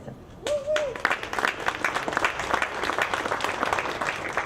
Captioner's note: audience clapping